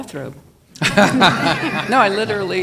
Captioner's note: panelists laughing